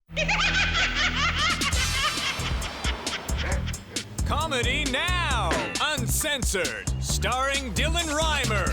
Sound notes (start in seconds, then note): 0.1 maniacal laughter